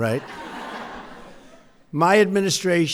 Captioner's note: laughter